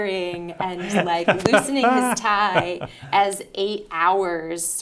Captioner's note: laughing